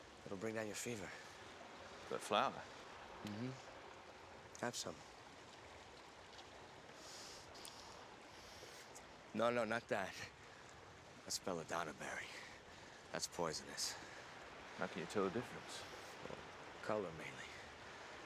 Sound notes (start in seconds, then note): none